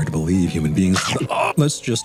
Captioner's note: Theta's pet thing bites his foot, making him briefly scream in agony